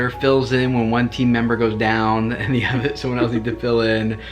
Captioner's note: laughs